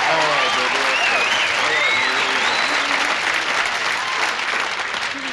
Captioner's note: audience applauds